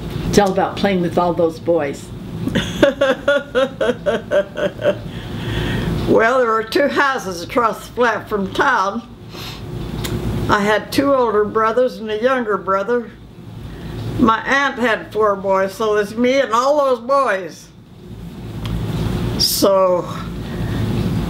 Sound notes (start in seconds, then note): 2.5 laughing